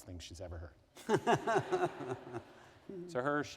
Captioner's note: laughter